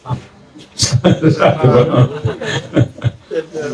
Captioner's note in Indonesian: tertawa